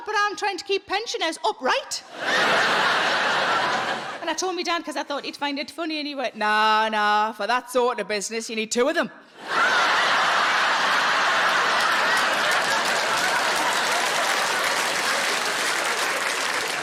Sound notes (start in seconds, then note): 9.4 audience laughing and applauding